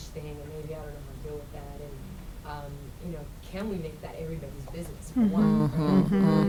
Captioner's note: voice muffled